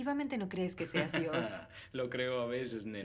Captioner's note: laughs